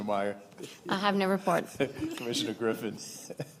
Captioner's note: laughter